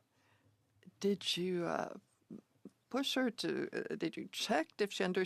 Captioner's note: speaking French